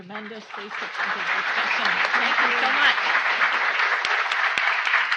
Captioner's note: audience applauding